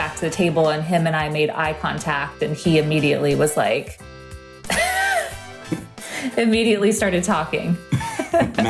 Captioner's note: laughs